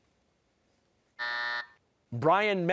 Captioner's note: buzzer